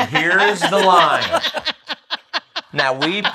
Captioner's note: laughs